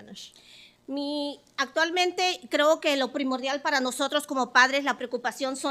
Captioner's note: speaking Spanish